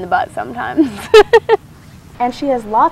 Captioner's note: laughs